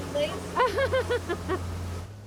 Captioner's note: laughs